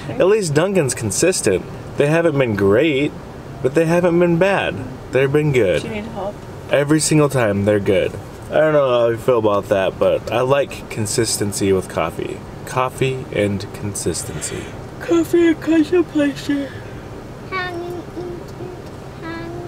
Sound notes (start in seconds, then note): 15.1 yawning